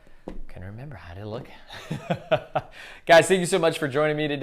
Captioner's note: laughs